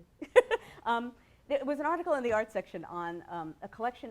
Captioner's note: laughs